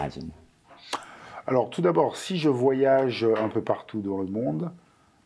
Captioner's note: non-english speech